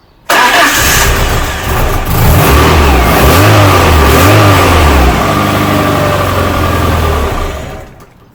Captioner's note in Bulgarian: Двигателят стартира, след splutters след това премахва